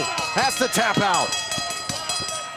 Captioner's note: bell ringing